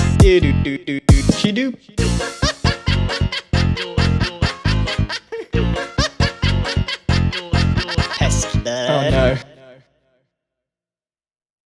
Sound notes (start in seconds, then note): 2.0 laughing